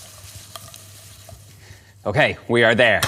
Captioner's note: sizzling